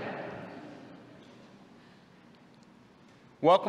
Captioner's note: laughter